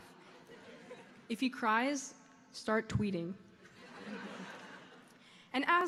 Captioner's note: audience laughs